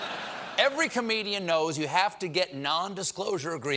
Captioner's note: laughter